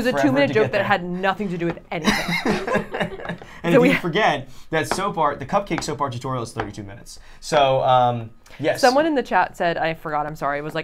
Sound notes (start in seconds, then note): 2.0 laughing